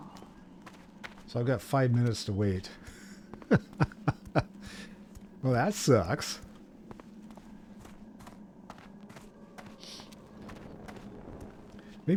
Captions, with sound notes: So I've got five minutes to wait. [laughs] Well, that sucks.